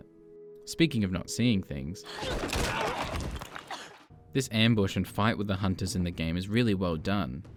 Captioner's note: head crunch